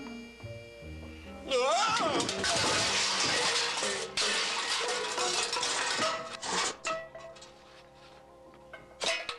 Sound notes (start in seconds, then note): 0.6 yelling; 2.4 loud clatter